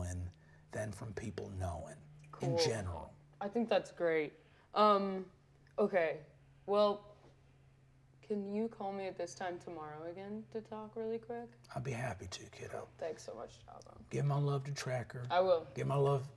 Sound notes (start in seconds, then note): none